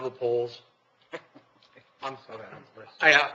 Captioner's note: laughing